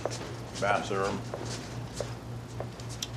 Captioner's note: none